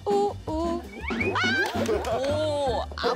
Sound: bounce bounce

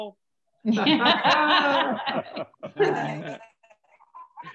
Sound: all laugh

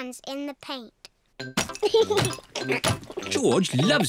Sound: giggles

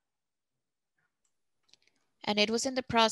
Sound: speaking Spanish

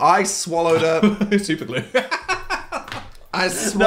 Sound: laughs

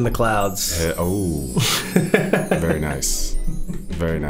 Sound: sparkling sounds

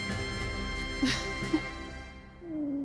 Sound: laughs

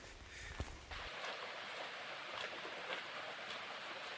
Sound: rain falling

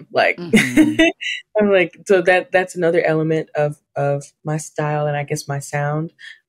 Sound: laughs

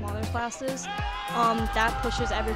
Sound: team cheering

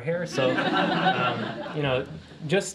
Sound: laughter

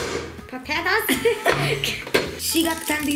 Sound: giggles

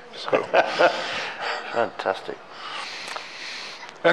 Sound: laughing

